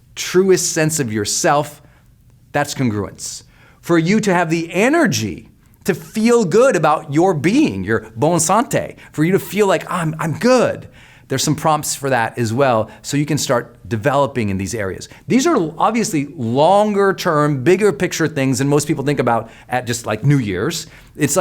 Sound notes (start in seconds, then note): 7.8 speaking in foreign language